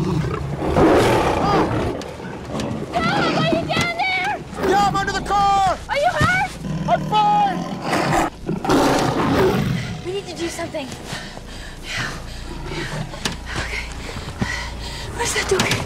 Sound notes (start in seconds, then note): 4.5 Roaring Continues; 4.5 Screams